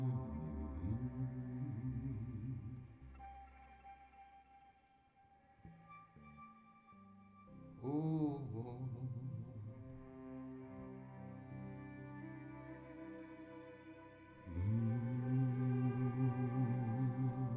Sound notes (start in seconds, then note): none